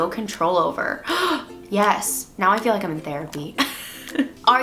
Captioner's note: gasp